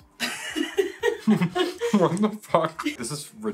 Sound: laughing

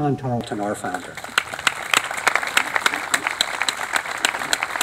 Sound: applause

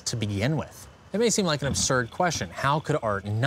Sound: grinding

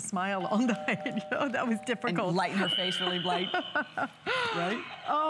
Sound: laughter; laughter

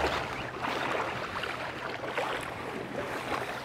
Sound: water splashing

